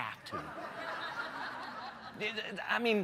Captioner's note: laughter